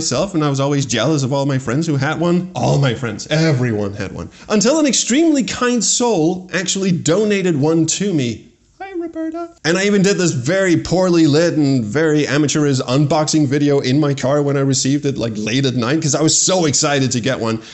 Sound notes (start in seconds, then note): 8.7 tiny voice